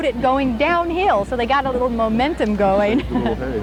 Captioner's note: chuckle